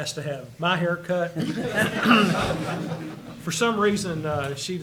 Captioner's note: attendees laugh